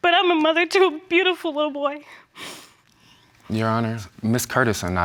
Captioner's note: tearfully